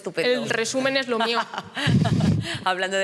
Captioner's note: she laughs